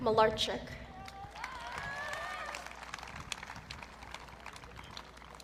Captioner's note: audience cheering